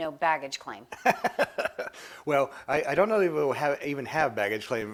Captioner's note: laughs